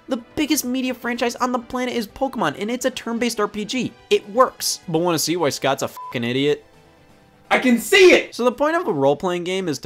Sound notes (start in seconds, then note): 5.9 beep